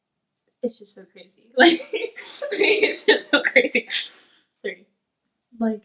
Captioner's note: laughing